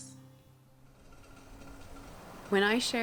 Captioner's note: water boiling